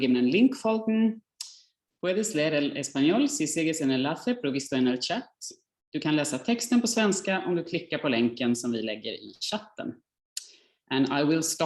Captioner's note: speaking non-English